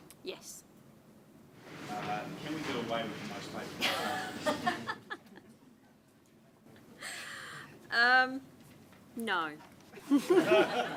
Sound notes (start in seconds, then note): 4.3 laughs; 10.0 laughs